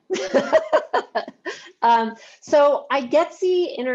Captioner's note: laughs